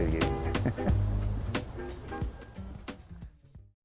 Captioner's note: laughing